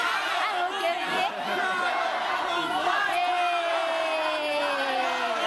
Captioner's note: speaks in foreign language